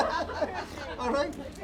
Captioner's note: laughing